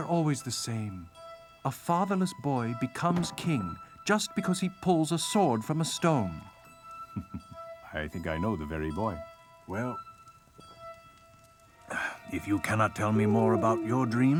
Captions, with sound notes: They're always the same. A fatherless boy becomes king, just because he pulls a sword from a stone. (chuckling) I think I know the very boy. Well, if you cannot tell me more about your dreams.